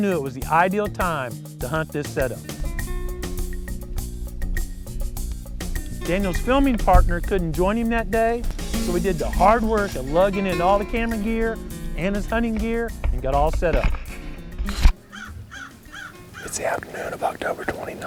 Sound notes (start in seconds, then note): 14.3 whispering